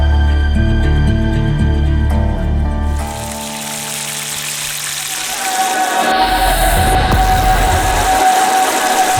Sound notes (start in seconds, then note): 3.0 cooking oil crackling